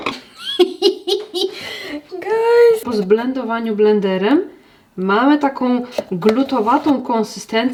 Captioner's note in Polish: śmiech